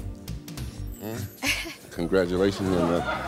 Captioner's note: laughing